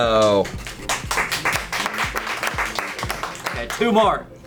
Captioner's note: colleagues applauding